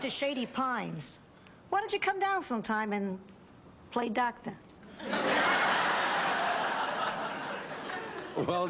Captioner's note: laughs